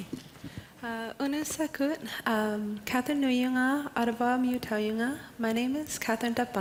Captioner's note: Speaking Inuktitut